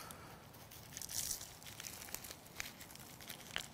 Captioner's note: rustling sound